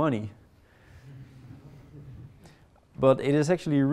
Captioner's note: audience members laughing